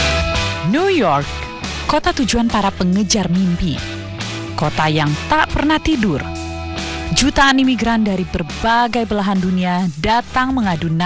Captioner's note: non-english speech